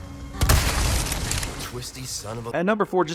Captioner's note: Cultist speaks Spanish; gunshot; wet burst